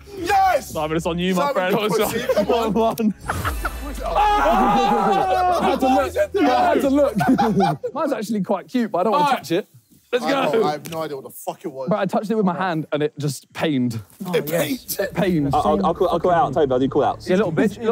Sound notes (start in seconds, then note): 3.2 group cheering